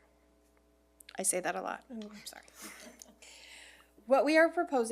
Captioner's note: chuckles